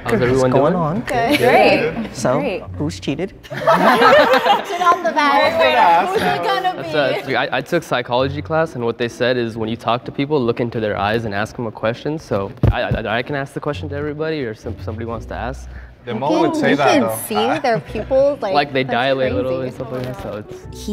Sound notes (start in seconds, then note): 3.4 group laughs